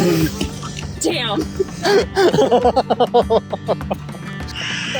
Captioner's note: laughing